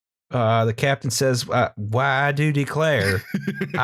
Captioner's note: laughter